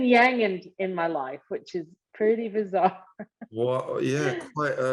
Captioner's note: laughter